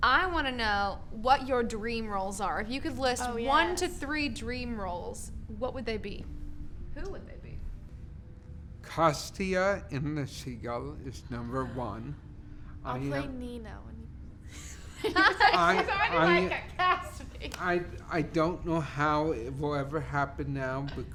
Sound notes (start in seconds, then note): 15.0 laughing